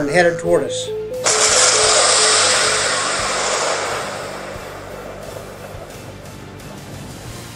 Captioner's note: missile Explosion, Battle music